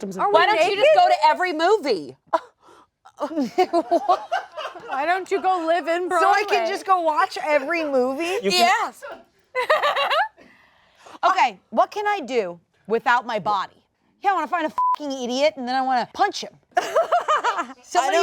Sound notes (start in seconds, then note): 3.2 all laugh; 9.5 laughs; 14.7 beep; 16.8 all laugh